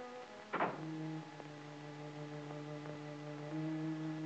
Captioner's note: solemn music; door thuds